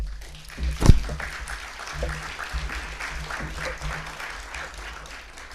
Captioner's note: audience applause